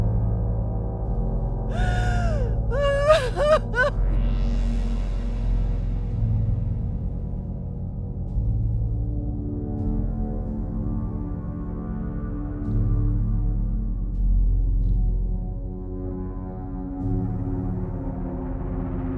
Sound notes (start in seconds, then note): 0.1 suspenseful music; 1.7 woman crying; 11.7 suspenseful music